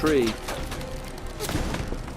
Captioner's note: pew pew pew